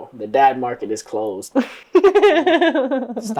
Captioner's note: laughter